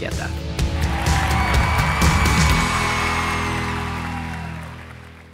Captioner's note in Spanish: publico y aplausos